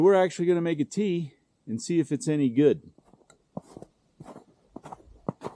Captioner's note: snow crunching underfoot